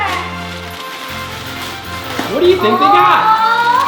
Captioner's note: paper ripping; mellow music